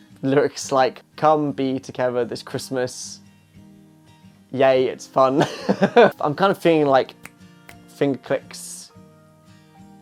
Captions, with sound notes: lyrics like "Come be together this Christmas" "Yay it's fun" (laughs) I'm kind of feeling like (snaps fingers) finger clicks